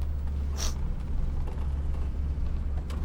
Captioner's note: sniffs